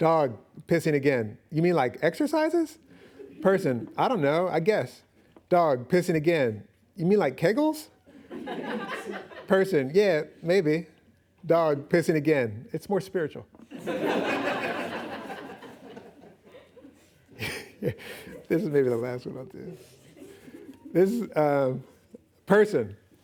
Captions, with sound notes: Dog pissing again, "You mean like exercises?" Person, "I don't know. I guess." Dog pissing again, "You mean like kegels?" -[laughing] -Person, "Yeah, maybe." -Dog pissing again, "It's more spiritual." -[laughing] [chuckles] This is maybe the last one I'll do. Person,